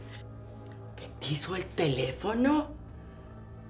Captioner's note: Spanish